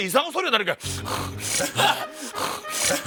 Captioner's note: panting